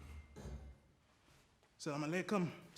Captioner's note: music stops